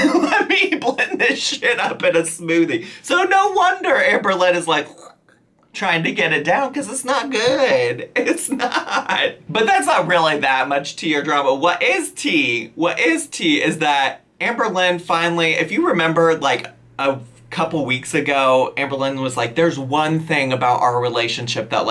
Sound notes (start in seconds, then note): 0.0 laughs; 4.8 gags; 8.2 laughs